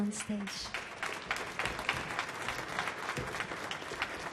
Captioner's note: audience clapping